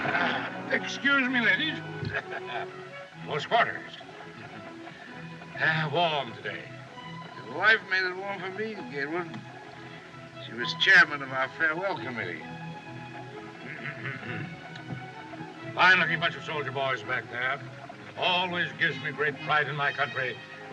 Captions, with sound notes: Excuse me, ladies. [Chuckling] Close quarters. [Sighs] Warm today. Your wife made it warm for me, Gatewood. She was chairman of our farewell committee. [Clears Throat] Fine-looking bunch of soldier boys back there. Always gives me great pride in my country...